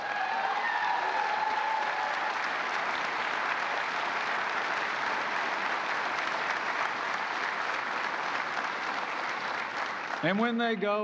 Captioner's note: applause